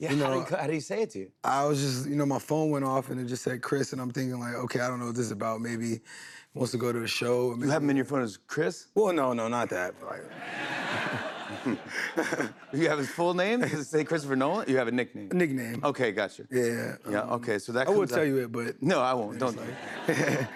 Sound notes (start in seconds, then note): 10.3 laughter